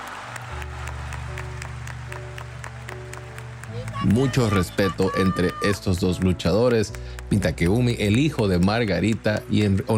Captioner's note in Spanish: aplausos